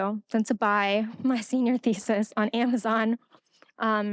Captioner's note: laughing